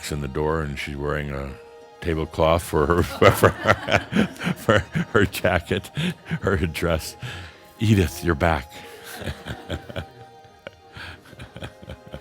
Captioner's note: laughter; chuckles